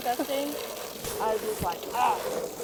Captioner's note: ugh